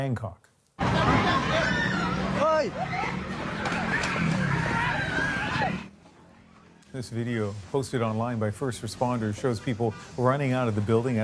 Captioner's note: screaming